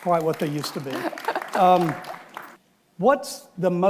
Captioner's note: audience applauds